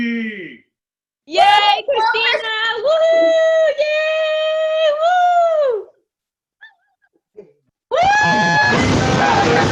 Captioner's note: cheering